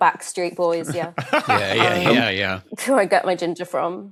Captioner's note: laughs